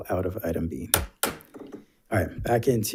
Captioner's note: gavel bangs